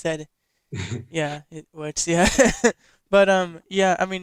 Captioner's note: laughs